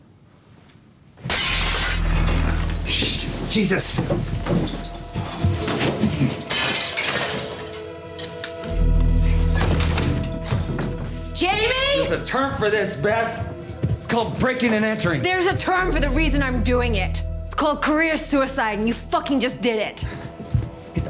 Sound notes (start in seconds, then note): 1.2 glass breaks; 2.2 suspenseful music